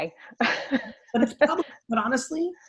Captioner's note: laughs